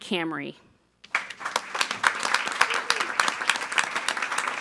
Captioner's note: all applauding